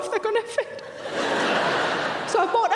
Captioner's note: audience laughing